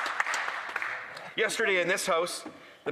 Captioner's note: some Applause